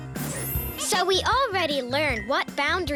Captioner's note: tinkling